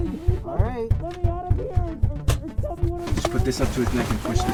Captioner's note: fist pounding